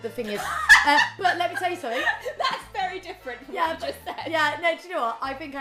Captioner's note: laughing